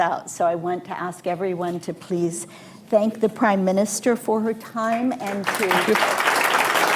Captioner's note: applause